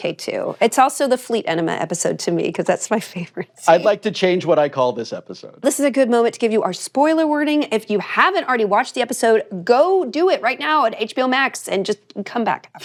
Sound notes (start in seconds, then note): 3.1 chuckles